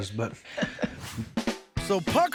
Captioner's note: chuckles